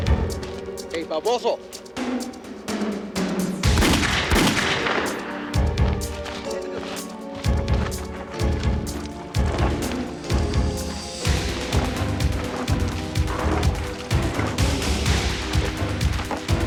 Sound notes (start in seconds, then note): 3.6 gunshots